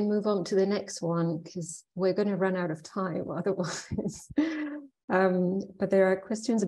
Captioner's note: chuckling